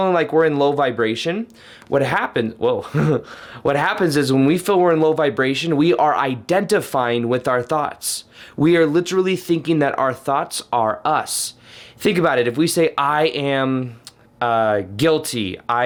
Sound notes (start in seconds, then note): 2.8 laughs